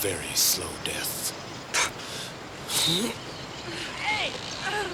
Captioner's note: Jane spits